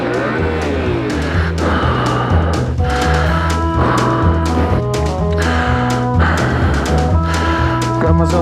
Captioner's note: breathes loudly